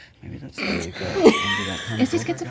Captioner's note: laughter